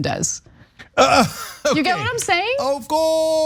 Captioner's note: laugh